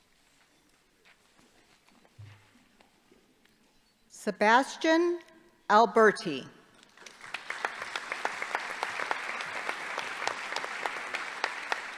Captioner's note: applause